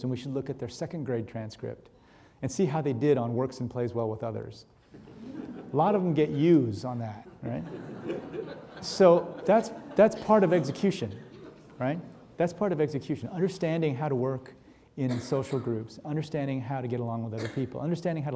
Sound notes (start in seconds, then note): 7.3 audience laughing